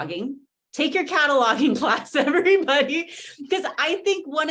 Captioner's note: laughs